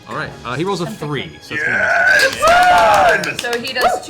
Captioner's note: cheering